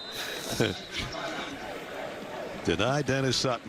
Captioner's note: laughs